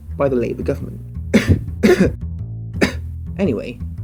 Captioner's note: cough